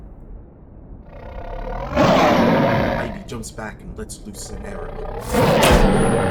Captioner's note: tiger aggressively roars